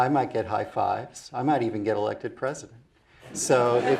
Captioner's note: laugh